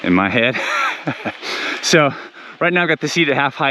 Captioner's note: biker laughs